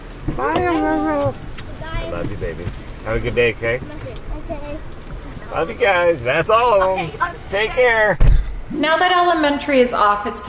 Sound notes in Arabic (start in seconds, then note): 6.6 يضحك المعلم